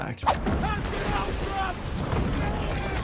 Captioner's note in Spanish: personaje gritando